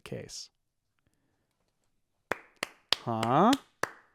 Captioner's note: clapping